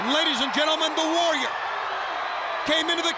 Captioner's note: crowd cheering